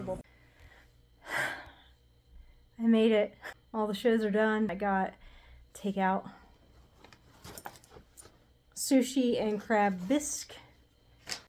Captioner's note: sigh